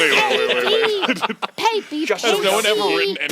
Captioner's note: laughs